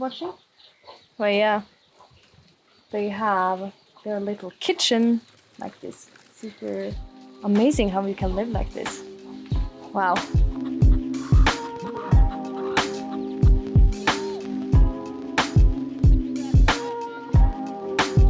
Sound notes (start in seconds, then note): 11.7 chickens squawking; 11.7 upbeat music